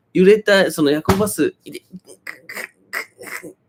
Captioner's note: thumping sound